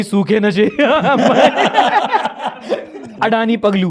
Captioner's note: laughs